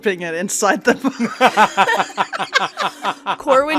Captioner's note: laughter